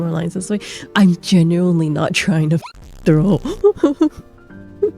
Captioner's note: laughs in awkward introvert; hyucking